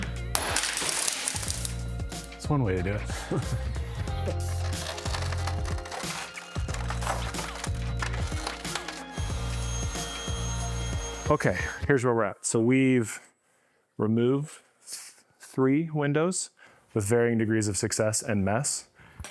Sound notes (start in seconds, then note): 0.2 glass breaking; 4.0 tearing; 9.3 heat gun